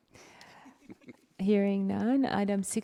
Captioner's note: board members giggle